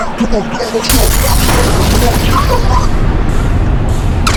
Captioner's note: muffled yelling